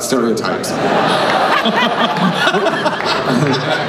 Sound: everyone laughs

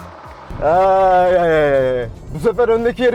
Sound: laughs

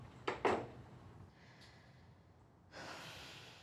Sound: breathing deeply

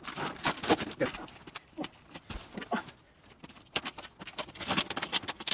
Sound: plastic rustles

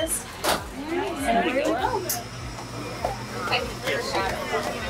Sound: crowd speaking

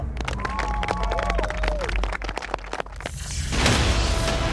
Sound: cheering; clapping; dramatic music

